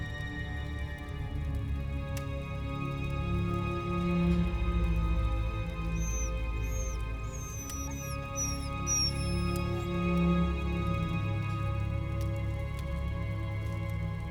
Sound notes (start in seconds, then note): 5.6 Lana whining quietly; 8.9 gentle tense orchestral music